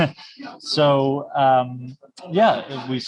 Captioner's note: laughs